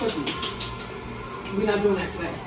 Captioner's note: hands clapping